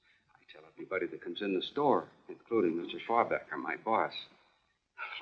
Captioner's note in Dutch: kletsend